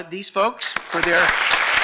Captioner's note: applause